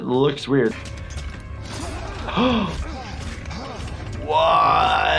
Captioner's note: gasps